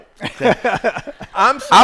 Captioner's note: laughter